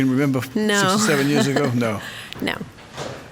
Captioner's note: laughs